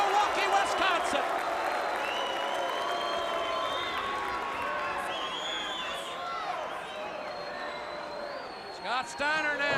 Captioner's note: crowd cheering